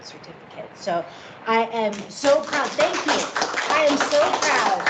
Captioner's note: clapping